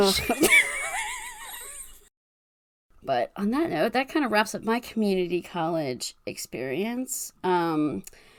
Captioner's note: laughs